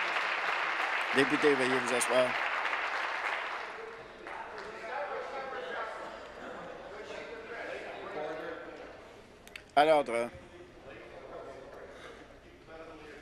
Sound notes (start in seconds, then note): 0.0 some Applause